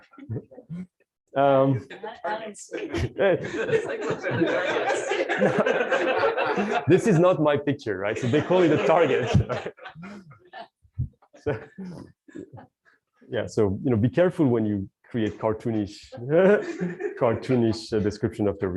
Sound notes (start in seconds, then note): 4.6 laughter